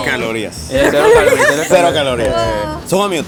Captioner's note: giggles